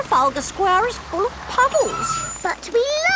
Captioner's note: tires screeching